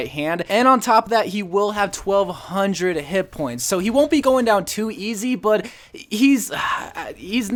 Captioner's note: sighs